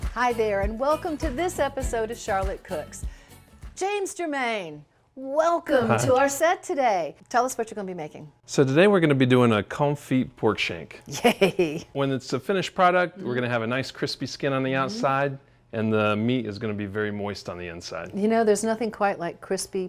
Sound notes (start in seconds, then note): 11.1 laughs happily